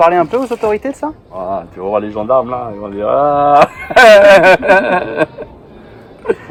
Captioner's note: laugh